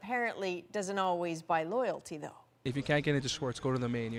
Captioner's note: speaking French